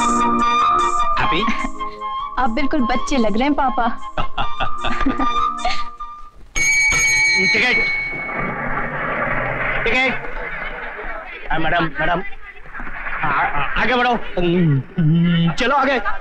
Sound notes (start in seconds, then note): 1.5 chuckling; 4.2 laughing; 4.2 chuckling; 6.6 bus Bell Jingle; 8.6 bus Engine